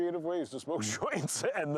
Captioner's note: laughing